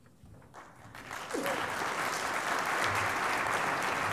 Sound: applause

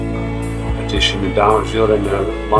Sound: speaking foreign language

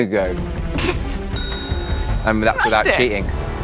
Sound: Jessie laughs; bell rings twice

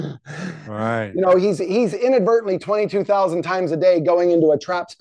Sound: breathing heavily

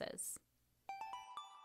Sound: chime

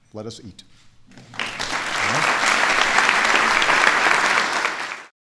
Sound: audience Applauding

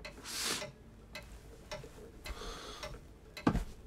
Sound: sniffles; inhales

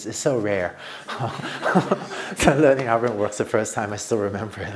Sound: laughter

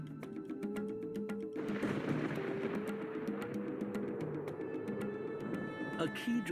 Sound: thunderstorms

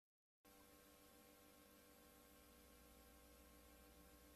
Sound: VHS static

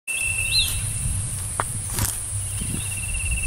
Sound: footsteps

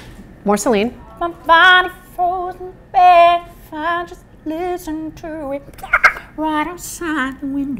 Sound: squirrel noise

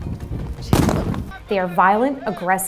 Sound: stun grenade explodes

